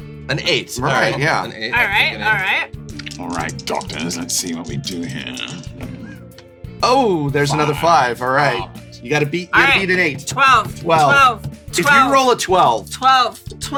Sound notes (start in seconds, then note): 3.2 evil voice; 7.6 evil voice continues